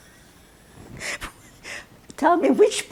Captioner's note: laughing